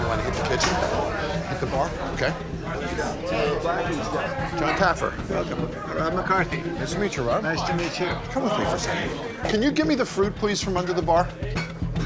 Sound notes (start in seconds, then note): 2.9 customers chattering; 11.8 suspenseful music